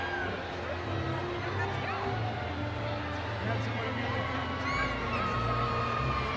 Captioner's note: audience cheering